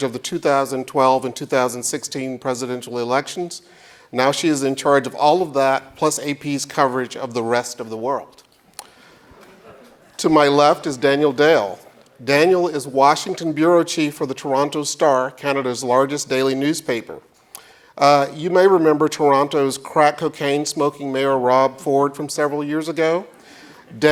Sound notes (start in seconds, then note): 9.1 audience laughs